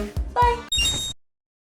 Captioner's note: Legend of Zelda rupee sound effect